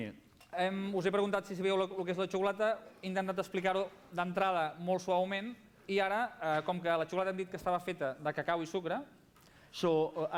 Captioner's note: non-english speech